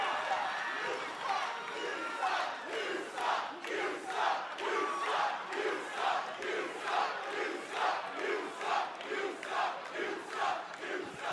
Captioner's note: fans chanting